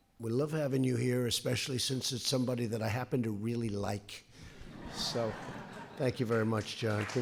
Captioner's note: laughter